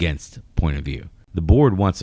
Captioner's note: uh